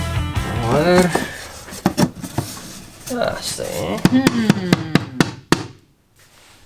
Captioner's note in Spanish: ruidos de satisfacción!